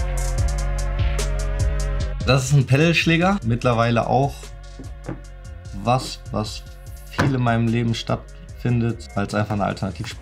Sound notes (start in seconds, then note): 2.4 speaking foreign language